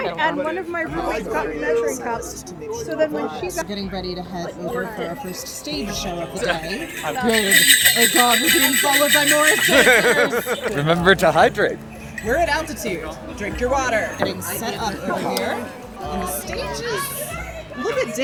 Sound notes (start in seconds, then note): 1.7 dancers chatting; 9.8 bells tinkling threateningly